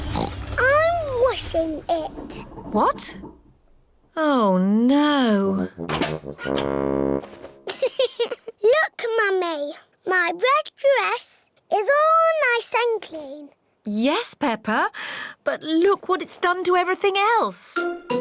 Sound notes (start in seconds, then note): 0.0 oinks; 7.7 giggles